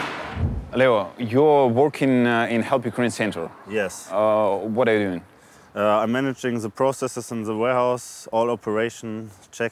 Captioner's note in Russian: говорят по-английски